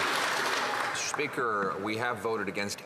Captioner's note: some Applause